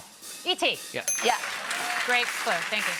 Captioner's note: bell dings